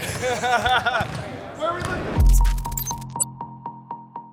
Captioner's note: player laughing